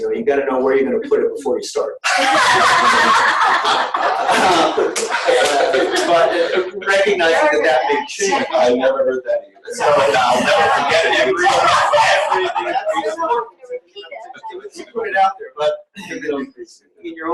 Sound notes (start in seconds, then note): 2.0 all laugh; 14.0 laughing